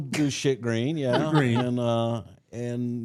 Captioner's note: laughs